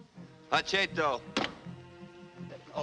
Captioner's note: replies in Native American language